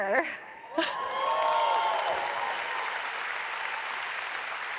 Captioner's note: audience applauds